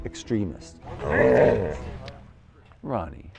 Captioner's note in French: dog whining